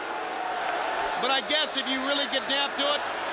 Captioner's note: crowd cheering